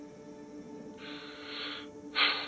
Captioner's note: exhales; inhales